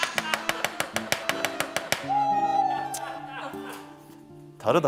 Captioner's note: The sound of the Auditor’s knife dominating the kitchen